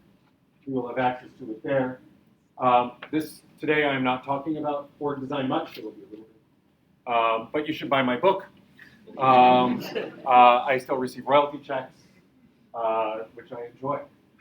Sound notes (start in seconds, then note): 9.1 audience laughs